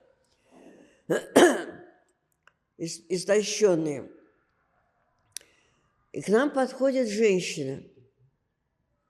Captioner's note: coughing